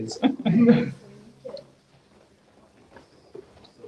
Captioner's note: laughter